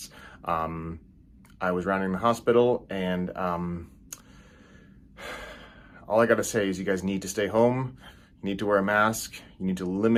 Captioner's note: sigh